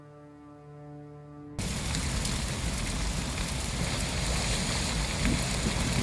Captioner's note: roaring crackling fire